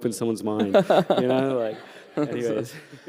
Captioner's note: laughter